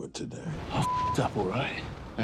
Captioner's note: beep